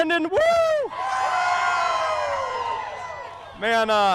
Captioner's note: crowd cheers